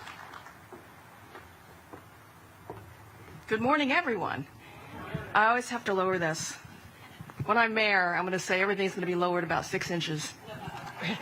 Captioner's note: applause